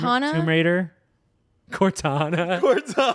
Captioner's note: laughs